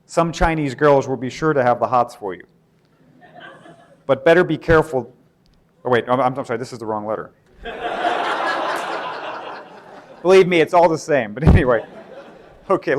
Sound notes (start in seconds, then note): 7.6 laughter